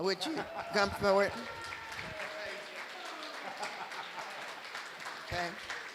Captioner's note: applause